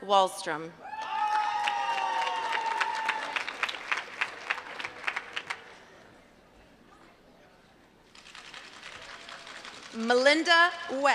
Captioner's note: applause